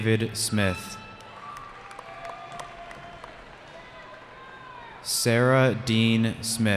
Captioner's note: cheering